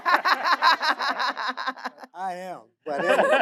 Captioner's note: audience laughing